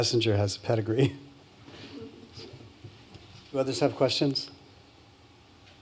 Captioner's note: laughs